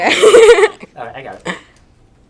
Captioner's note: laughs